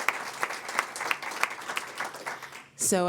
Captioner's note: applause